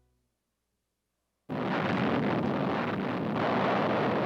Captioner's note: explosion